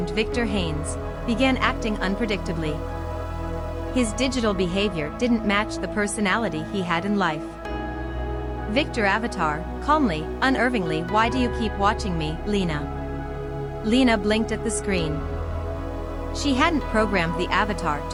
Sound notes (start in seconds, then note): 10.3 calmly, unnervingly